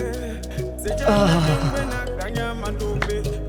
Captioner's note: guttural sounds